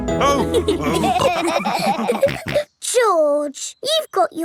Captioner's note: all laughing